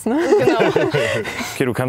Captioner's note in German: Lachen